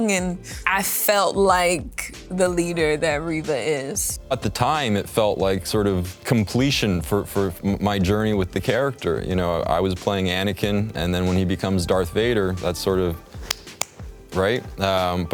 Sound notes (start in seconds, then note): 13.4 soft clapping